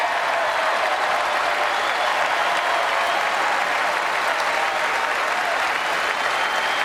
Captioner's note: applause